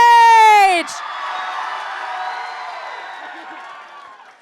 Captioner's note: crowd cheers